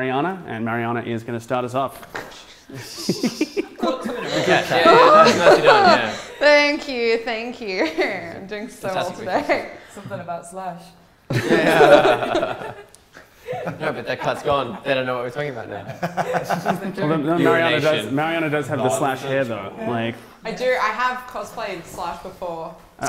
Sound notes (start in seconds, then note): 2.7 giggles; 11.3 laughter; 16.5 laughs